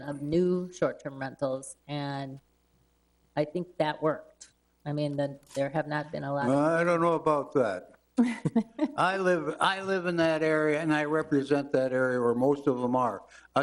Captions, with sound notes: of new short-term rentals, and I think that worked. There have not been a lot of-- I don't know about that. (trustees chuckle) I live in that area, and I represent that area where most of them are.